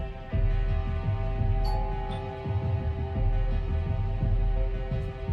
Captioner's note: door bell chiming